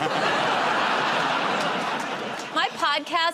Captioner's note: laughter